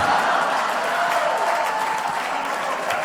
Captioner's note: applause